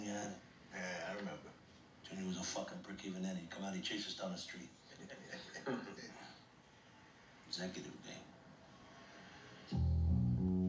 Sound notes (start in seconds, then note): 4.9 laughter